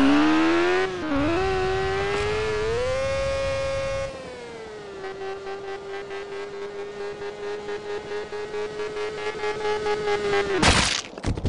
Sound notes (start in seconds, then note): 0.0 motorcycle engine revving; 2.6 motorcycle engine hiccuping loudly; 10.6 crash, knuckles cracking